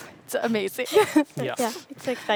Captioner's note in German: kichert